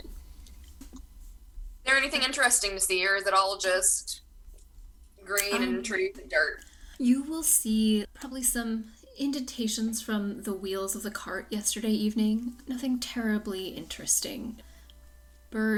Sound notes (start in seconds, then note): none